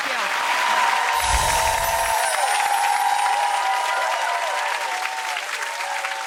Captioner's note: audience cheers